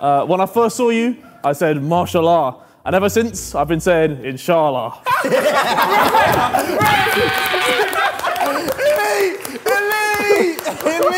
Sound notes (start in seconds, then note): 5.0 Sidemen laughing